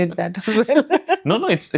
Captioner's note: laugh